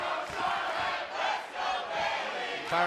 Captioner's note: fans chanting